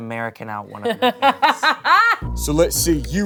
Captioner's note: laughing